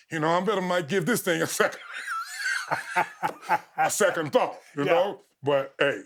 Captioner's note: chuckles